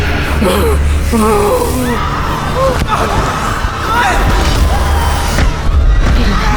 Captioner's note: chaotic screaming; Irinarkh groans